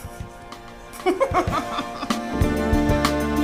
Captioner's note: laughs